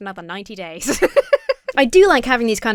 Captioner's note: laughs